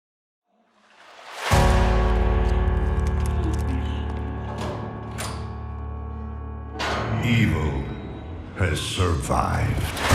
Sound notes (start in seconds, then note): 2.3 spider scuttling